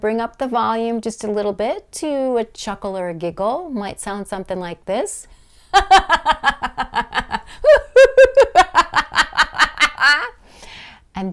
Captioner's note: laugh